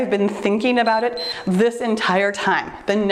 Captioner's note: timer beeps